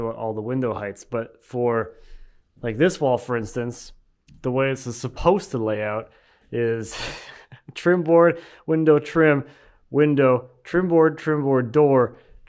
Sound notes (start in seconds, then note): 7.0 laughing